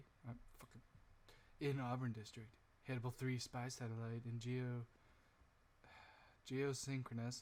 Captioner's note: sigh